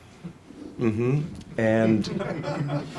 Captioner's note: audience laughs